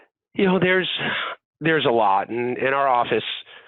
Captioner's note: sighs